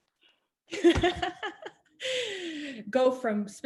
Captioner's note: laughing